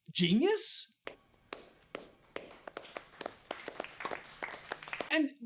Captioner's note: weak applause